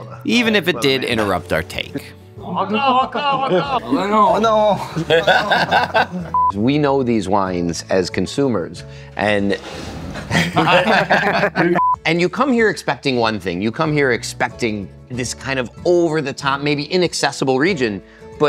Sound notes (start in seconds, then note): 2.8 speaking in french